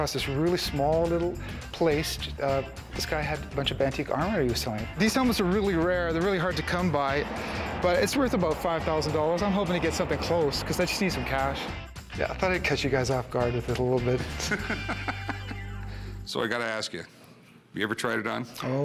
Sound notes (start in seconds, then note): 14.2 laughs